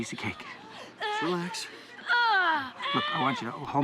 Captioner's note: groans